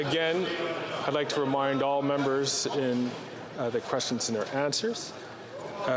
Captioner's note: chatter